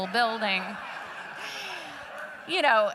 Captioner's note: laughter